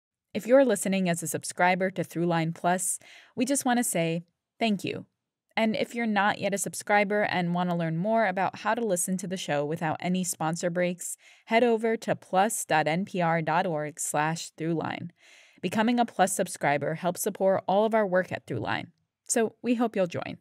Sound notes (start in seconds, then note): 6.8 soundbite of archived recording